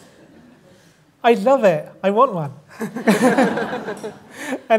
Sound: laughter

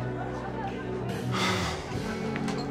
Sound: sighs

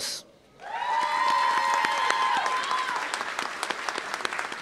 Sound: applause

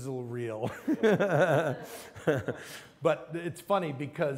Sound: laughs

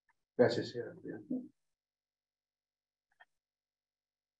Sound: speaking in Spanish

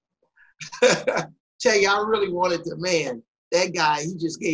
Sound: laughs

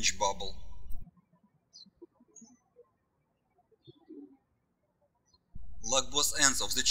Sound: birds chirping

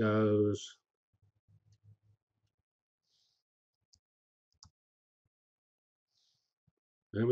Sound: pause

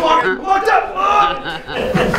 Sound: grunts

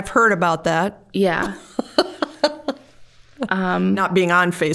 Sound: laughing

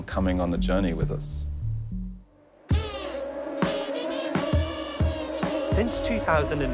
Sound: swarm of mosquitos buzzing along to music

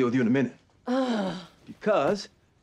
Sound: groans

